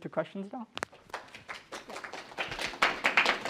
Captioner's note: applause